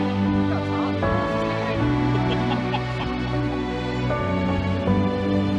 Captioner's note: laughter